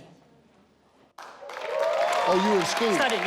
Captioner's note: audience cheers